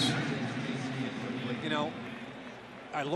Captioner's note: pa announcement